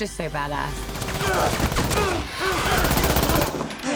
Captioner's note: grunting